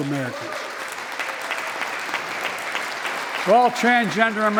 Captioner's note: applause